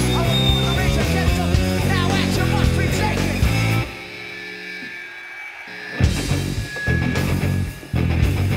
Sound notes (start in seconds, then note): 0.0 feedback screeching; 5.2 crowd cheers